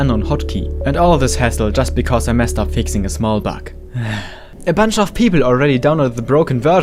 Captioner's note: sigh